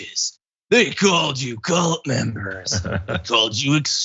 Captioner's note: laugh